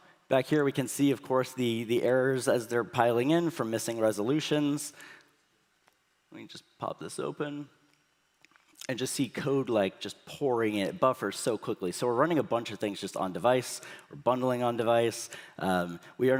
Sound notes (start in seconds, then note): none